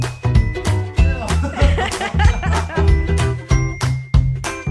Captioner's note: laughing